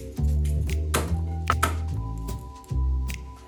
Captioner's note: knife smashing